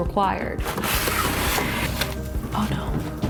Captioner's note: box rustling